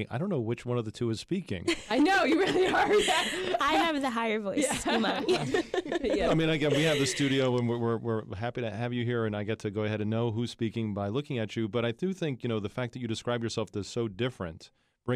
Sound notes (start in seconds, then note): 1.6 group laughs